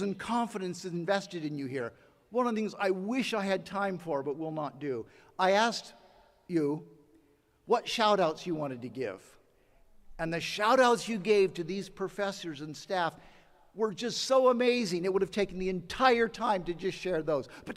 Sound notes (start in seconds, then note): none